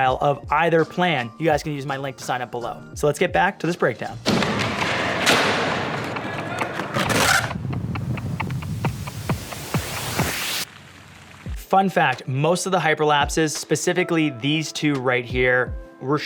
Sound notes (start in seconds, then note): 4.2 skateboard slamming; 7.6 clock ticking